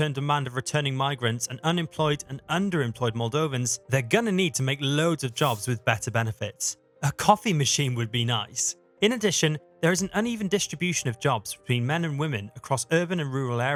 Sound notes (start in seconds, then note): 8.2 sarcastic tone